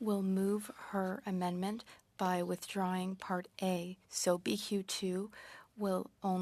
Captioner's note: speaking French